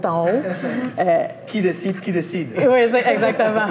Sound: laugh

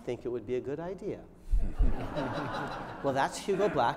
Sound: laughter

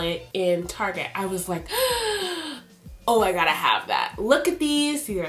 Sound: gasps

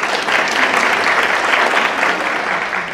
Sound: applause

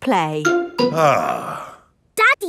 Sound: sighs

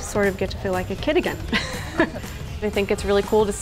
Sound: laughs

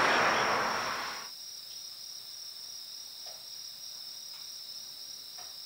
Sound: insect sounds

